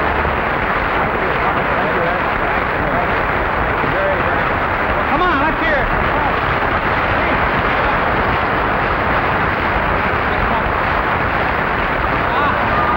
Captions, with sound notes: - Thank you. Thank you, Ed - Come on, let's hear it (audience applauding)